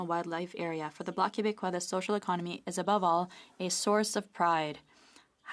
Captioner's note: speaking french; speaking french